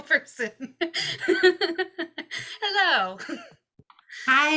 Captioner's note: laughs